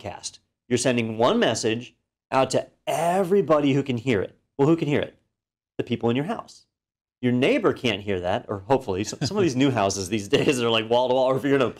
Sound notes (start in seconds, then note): 9.7 laugh